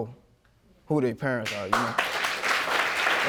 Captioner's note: audience applauding